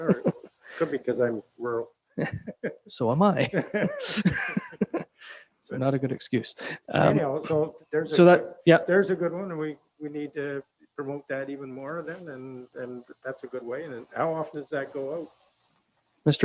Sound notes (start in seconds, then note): 3.3 laughing